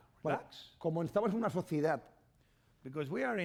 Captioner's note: speaking spanish